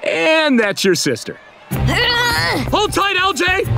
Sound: grunting

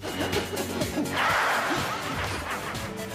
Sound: laughs evilly

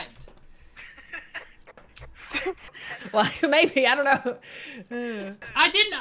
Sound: laugh

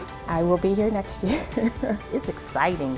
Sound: laughter

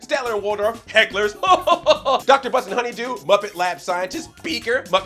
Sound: laughs

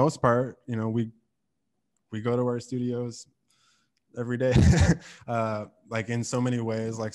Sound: laughs

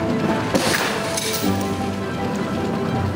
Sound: tire popping; thrilling music

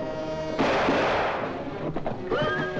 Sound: hooves pounding; suspenseful music; gunshots; horse whinnies

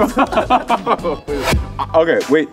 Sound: laughing

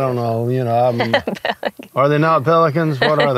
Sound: laughing

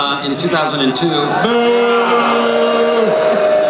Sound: crowd boos

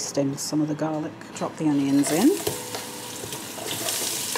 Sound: sizzle

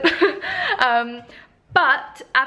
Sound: chuckles

